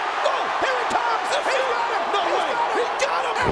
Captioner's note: crowd cheers